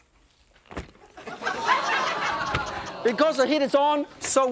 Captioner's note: laughter